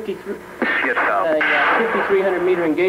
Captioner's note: missile launches